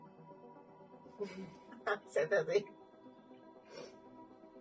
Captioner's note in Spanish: sonido: risas